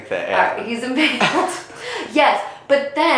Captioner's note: both laughing